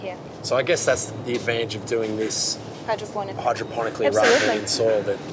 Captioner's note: none